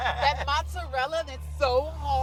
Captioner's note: laughs